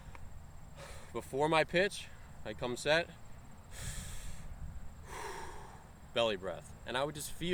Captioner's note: breathes in, and breathes out